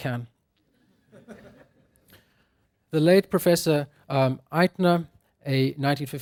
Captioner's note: laugh